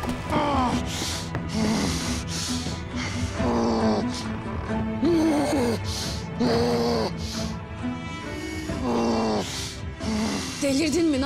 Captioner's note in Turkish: Derin iç çekme